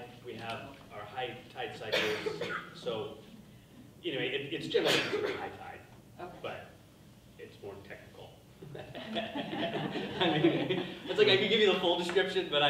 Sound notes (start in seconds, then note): 4.7 coughing drowns out speaker; 8.6 people laughing